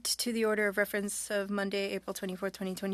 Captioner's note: speaking French